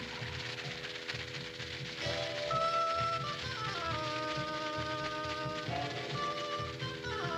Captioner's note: snakes rattling; mysterious music